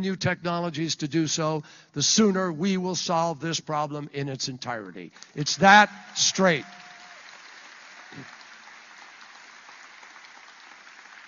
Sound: applause

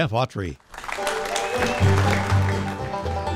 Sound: audience applauding; bluegrass music

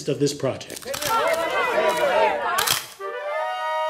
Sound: reporters clamoring and camera’s clicking; melancholy music

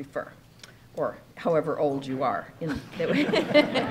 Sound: laughs

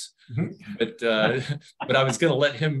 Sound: chuckles

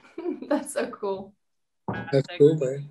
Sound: chuckles

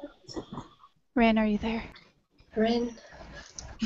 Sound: whispers

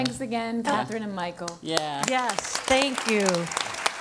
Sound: applause

